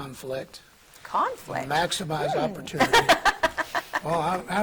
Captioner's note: laughing